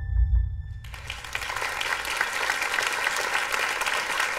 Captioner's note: applause